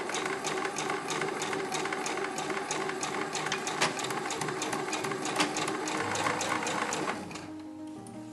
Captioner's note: clips rustling